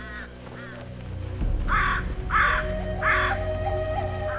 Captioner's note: birds cawing